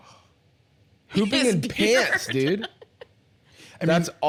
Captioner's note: laughing